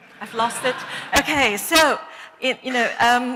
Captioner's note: laughter